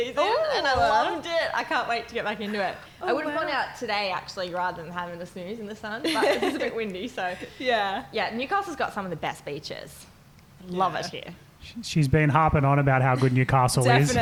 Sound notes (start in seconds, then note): 6.0 laughing; 12.8 laughing